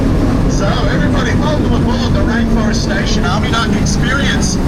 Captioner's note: wind whooshing